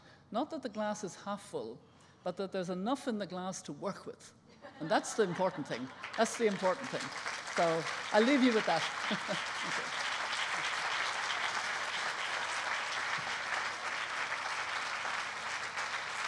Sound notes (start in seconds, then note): 8.9 applause